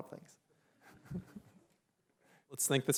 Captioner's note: chuckles